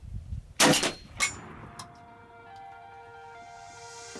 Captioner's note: gunshot fires